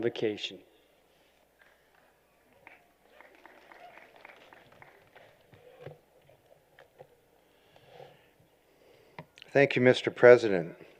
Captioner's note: applause